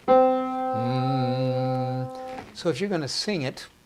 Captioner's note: hum